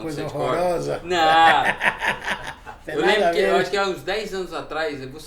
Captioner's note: laughs